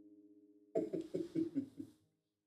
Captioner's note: chuckles